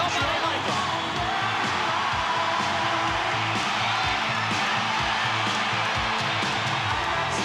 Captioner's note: crowd cheering; upbeat music